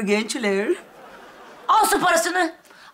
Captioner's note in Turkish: Gülme efekti